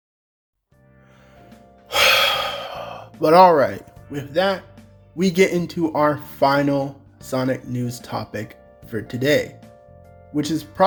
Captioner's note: sigh